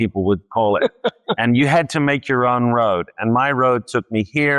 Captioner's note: laughs